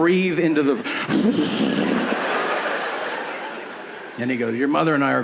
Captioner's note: heavy breathing